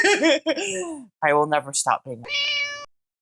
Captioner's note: meow